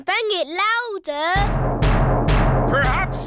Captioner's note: banging